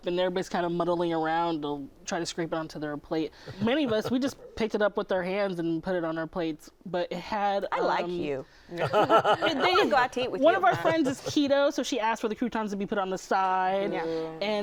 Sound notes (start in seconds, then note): 8.8 laughter